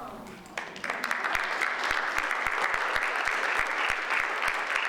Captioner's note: audience applauds